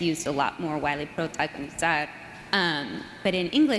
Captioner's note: speaking foreign language